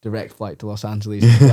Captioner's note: laughs